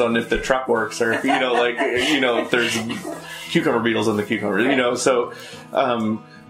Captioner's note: laughter